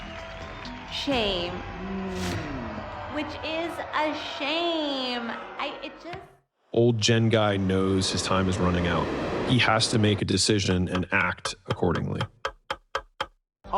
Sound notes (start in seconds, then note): 5.3 stuttering; 12.2 clock ticking sound